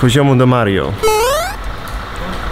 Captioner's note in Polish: small Mario jump sound effect